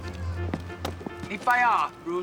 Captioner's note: speaking Mandarin